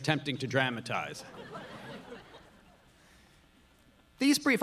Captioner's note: audience laughing